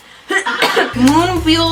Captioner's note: coughs